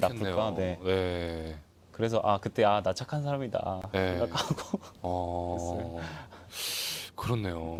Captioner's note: laughs